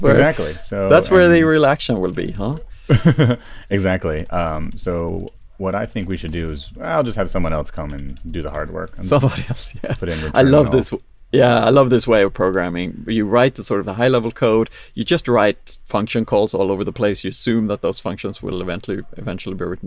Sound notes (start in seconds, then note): 2.9 laughs